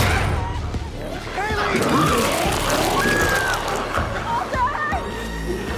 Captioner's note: Chalee screams